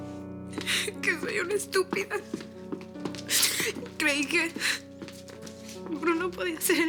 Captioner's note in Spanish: Sollozando